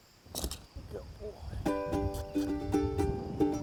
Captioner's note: squeaky kisses; bright acoustic guitar